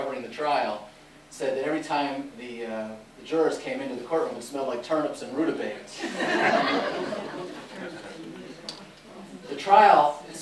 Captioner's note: laughter